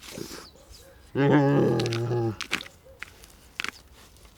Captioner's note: growls